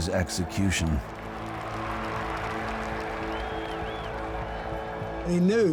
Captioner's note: crowd cheering